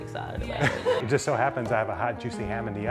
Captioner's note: crew member chuckle